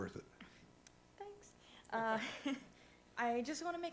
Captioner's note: laughs